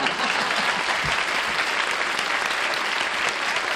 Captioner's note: applause